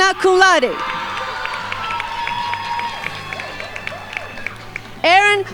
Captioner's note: crowd applauding